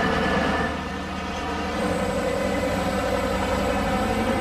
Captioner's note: engines roaring